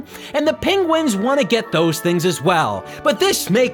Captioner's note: none